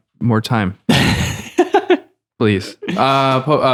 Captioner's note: laughter